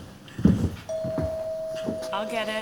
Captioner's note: doorbell ringing